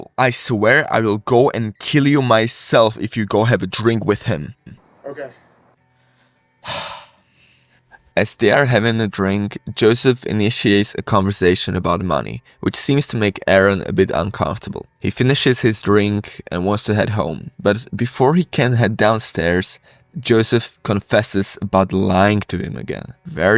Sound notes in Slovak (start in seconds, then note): 6.6 povzdych; 6.6 nádych